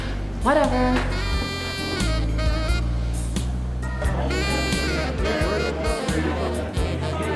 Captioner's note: lively music; people chattering